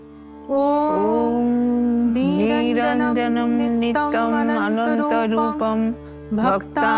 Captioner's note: chanting